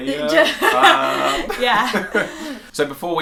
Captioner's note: laugh